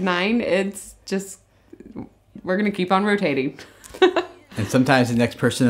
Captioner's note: laughs